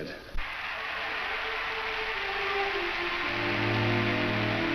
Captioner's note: crowd applauds